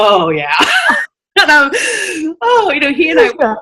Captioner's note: laughing